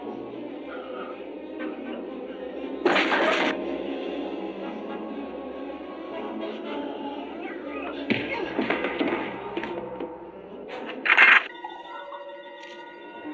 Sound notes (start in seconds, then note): 7.9 thump; 11.5 ominous music